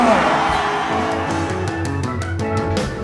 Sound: crowd cheers wildly; joyful rock music

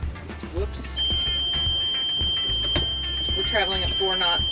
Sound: beep sound

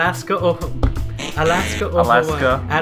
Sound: buzzer

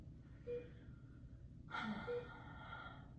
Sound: beeping

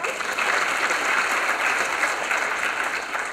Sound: applause

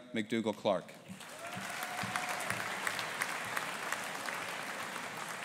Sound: audience applauding

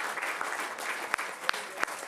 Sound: applause

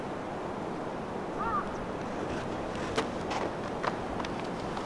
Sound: crow cawing

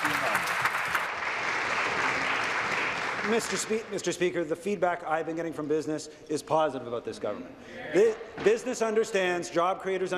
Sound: applause

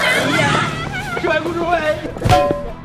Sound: laughs

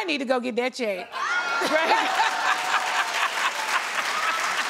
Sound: audience cheers

